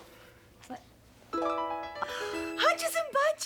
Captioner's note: gasps